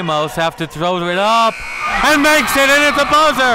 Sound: buzzer rings

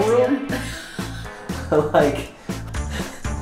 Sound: laughter

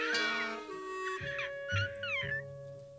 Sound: crashes; little bird squawks

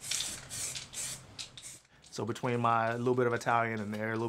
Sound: paint hissing

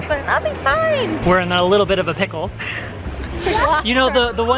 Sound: laughs

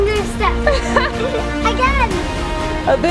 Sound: laughing

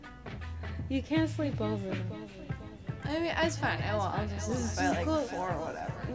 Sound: drunken stuttering

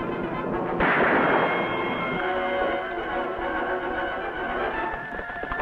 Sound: gun fires; dramatic music

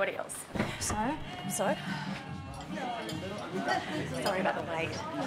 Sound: noisy chatter

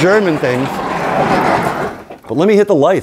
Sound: door scrapes

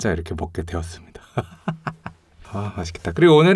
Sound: laugh

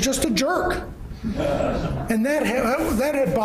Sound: laughing

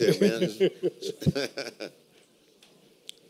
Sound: laughter

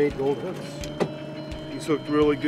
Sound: thunk

